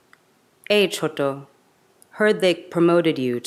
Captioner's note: speaks in a foreign language